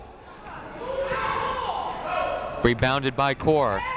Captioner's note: people shouting in the crowd